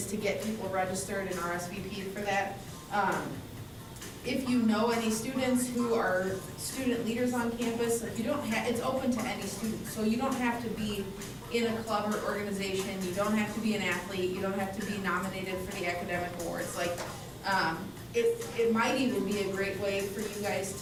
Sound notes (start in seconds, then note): none